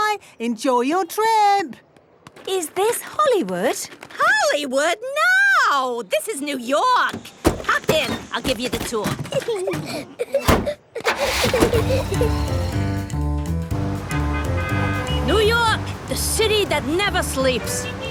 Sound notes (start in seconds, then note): 9.2 Peppa and George laughing; 13.7 upbeat music, honking